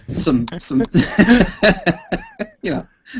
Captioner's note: laughter